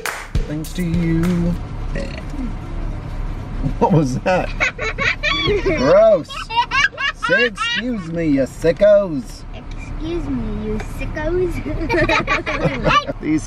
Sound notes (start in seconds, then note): 1.9 burps; 4.2 kids laughing; 11.7 all laugh